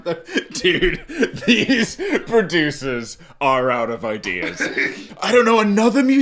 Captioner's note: laughing